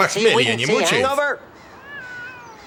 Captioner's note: cat yowls